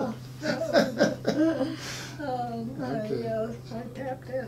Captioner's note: laughing